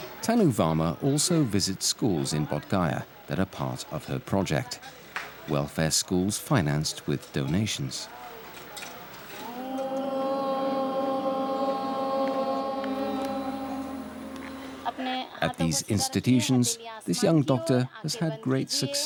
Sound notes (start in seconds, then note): 9.6 students chanting "Om"